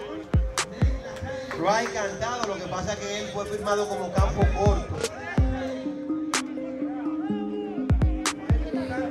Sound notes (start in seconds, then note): 1.9 speaking Spanish